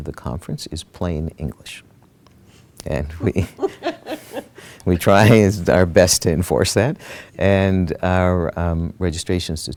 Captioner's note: laughter